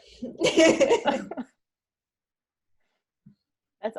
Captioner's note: laughs